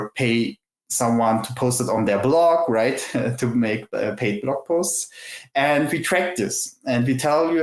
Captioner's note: laughs